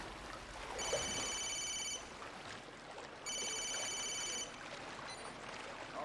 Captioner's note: telepon berdering